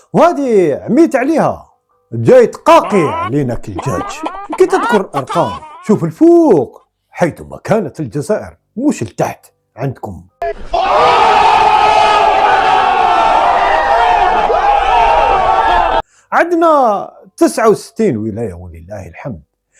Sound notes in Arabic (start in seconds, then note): 13.6 تشجيع